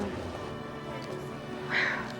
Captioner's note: sighs